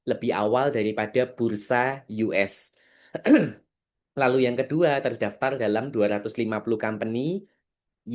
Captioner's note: berdehem